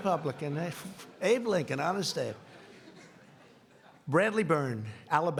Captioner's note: laughing